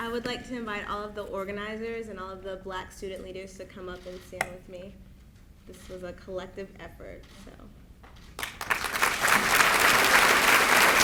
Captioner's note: applause